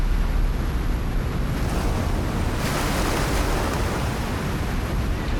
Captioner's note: waves crashing